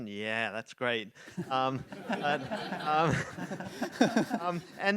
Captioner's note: audience laughs